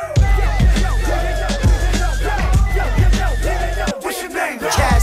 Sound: crowd cheering

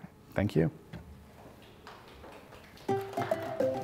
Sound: applause

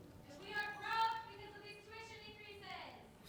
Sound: shouting

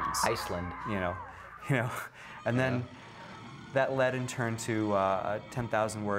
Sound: laughs

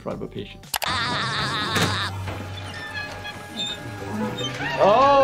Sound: SpongeBob laughing

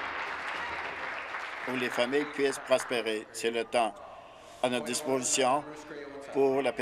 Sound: applause

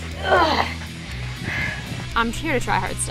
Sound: grunts

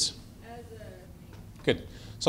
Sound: voiceover

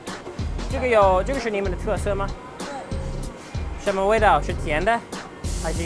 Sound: speaking in a foreign language

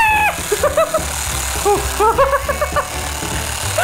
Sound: screams

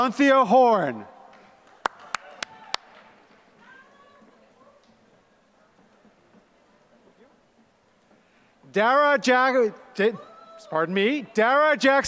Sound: applause

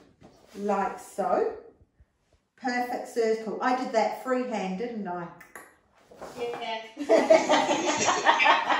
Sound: laughing

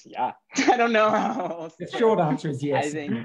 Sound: laughing

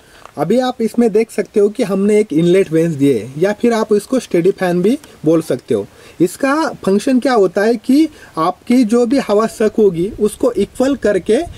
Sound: steady fan

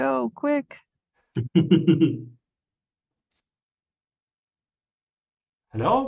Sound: laughs

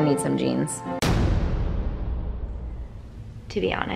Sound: bang

